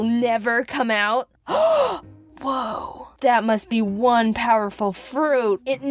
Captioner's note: gasp